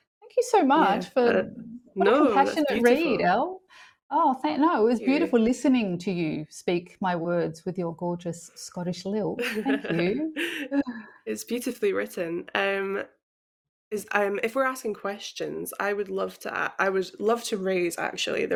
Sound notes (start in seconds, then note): 9.4 laughs